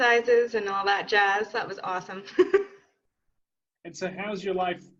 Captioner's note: laughs